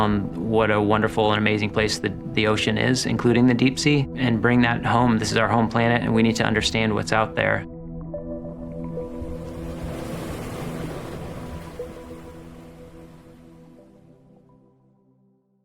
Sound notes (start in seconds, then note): 8.8 sound of the ocean waves; 11.5 calm music